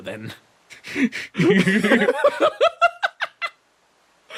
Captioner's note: laughs